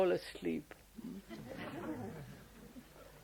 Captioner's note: laughter